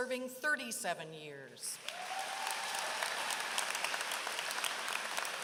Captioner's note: applause